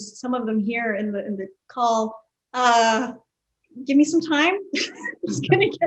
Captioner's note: laughs